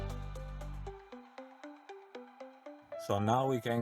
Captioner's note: narrator over music